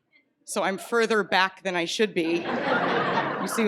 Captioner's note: laughter